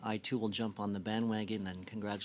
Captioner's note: speaking french